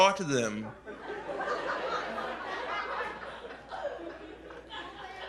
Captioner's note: laughter